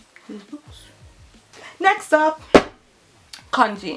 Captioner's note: drops books